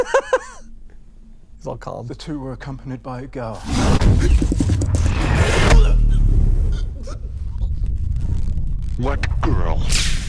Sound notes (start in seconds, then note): 0.0 laughs